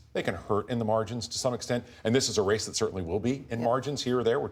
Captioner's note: none